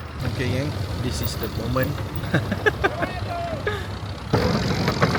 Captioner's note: laugh